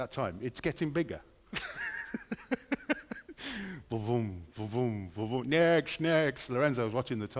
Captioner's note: laughter